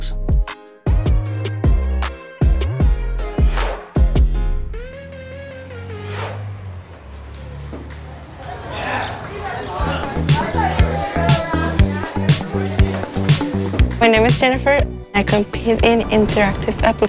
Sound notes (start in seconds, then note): 0.0 upbeat energetic music continues; 7.4 students chattering; 9.8 upbeat energetic music